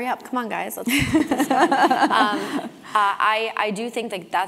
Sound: laugh

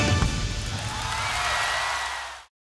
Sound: crowd cheering

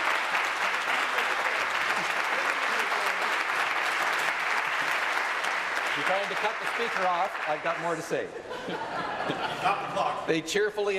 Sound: applause

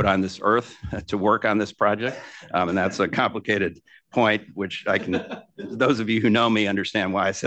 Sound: laughter

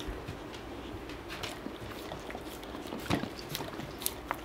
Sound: slurping

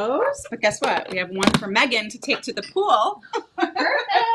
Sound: laughs

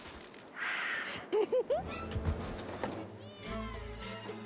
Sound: giggli ng

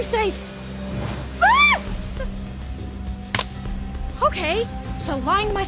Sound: screams

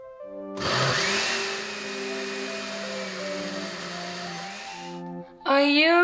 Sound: blending

